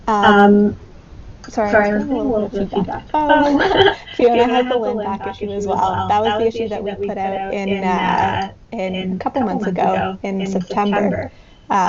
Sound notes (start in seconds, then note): 6.0 laughs